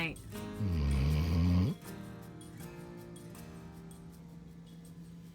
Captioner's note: camper snoring